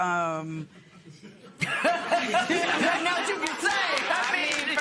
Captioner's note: laughter